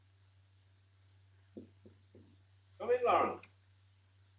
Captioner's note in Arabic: نقرات على المفاصل